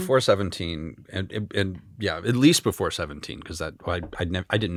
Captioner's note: none